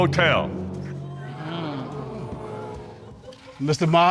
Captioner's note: audience gasp